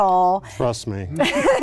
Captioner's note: laughing